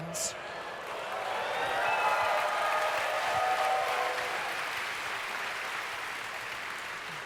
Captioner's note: audience cheers